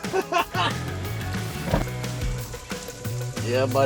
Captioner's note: laughs